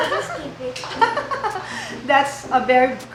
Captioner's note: laughs